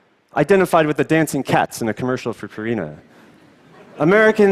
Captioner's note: laughter